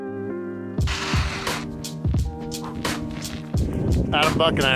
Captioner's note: studded tires skidding on ice